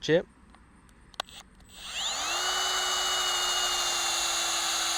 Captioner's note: speaker drilling sound